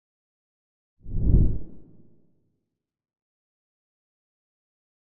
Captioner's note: logo swoosh